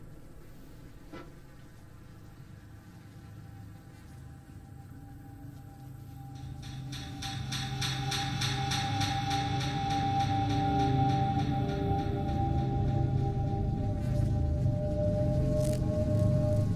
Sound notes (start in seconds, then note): 0.8 faint Buzzing; 14.3 flies Buzzing